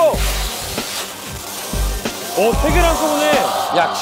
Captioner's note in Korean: 쫘아아악